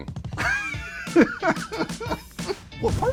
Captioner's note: laughter